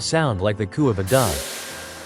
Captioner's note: GE engine Vwoop